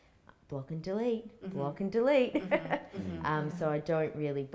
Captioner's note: chuckles